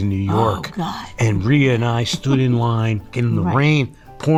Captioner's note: Rhea giggles